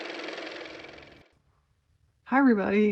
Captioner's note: car motor